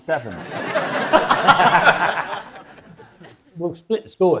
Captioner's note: audience and panel laughs